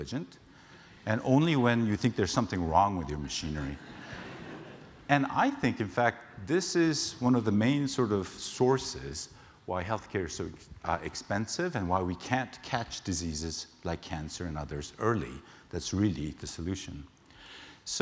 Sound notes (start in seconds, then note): 3.8 laugh